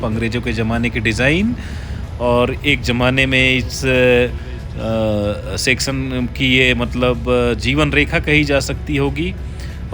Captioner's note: train